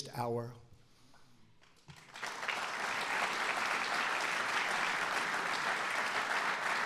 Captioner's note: applause